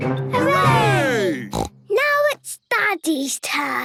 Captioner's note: snort